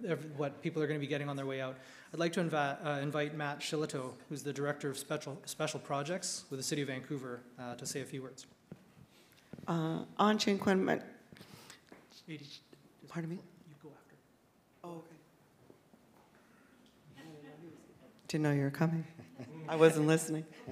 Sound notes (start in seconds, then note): 9.5 speaks in Sk1wx1wu7mesh